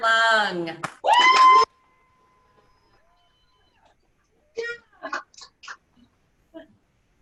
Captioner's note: clapping; cheering